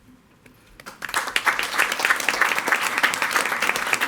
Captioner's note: all applauding